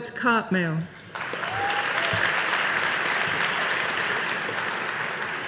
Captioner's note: audience applauding